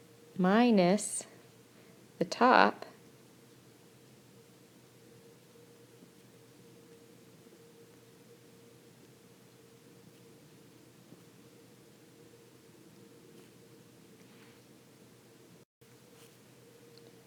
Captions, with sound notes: minus the top ... [Silence]